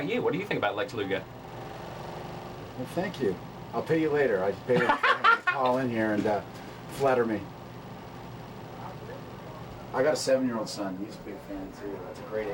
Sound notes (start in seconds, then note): 4.7 laugh